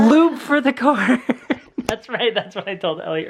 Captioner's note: laughs